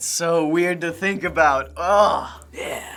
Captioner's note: groans